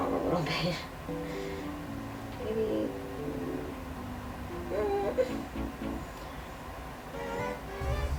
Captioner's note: makes unsure noises at the plushie